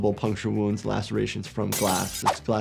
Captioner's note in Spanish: vidrio roto